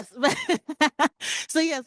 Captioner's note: panelist laughing